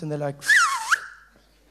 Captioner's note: whistling